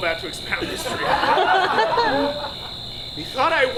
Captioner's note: audience laughs